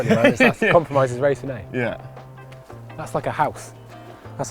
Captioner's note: laughs